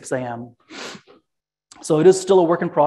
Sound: sniffles

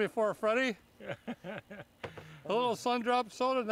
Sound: laughing

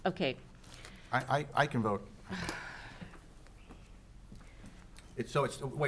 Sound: sighs

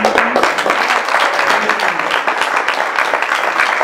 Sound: applause

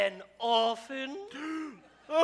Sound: pirates gasp

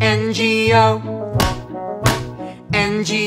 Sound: claps

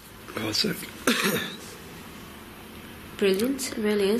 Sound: coughs

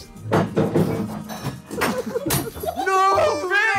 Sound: glass smashing

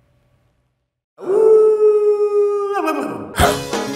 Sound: person howling like dog; whimsical folk music; person barking to beat

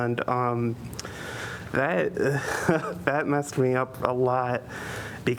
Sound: laughter

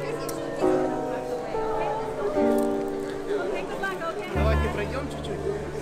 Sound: family conversing in Ukrainian

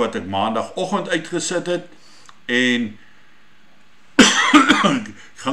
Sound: coughing

